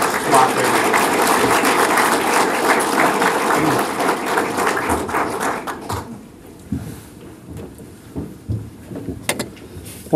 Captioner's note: applause